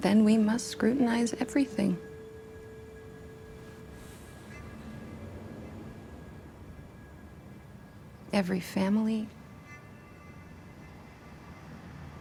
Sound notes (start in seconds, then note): 5.9 sighs